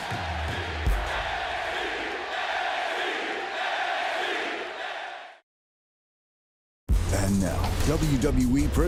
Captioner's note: crowd chants "nxt"